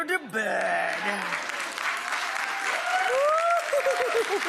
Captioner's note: audience applauds and cheers; laughing